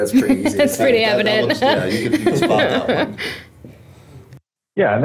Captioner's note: laughs